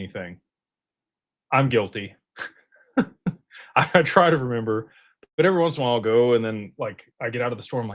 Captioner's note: laughter